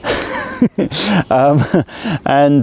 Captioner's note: laughter